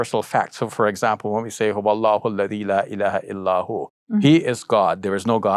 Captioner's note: speaking in Arabic